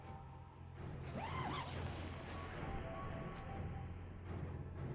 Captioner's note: tent unzipping